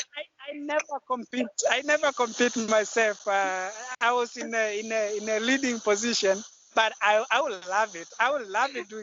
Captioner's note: laugh